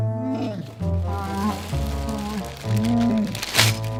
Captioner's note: Chewbacca sounds